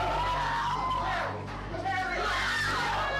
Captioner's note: shouting